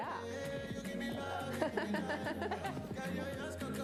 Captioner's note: laugh